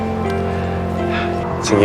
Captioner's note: Max sighs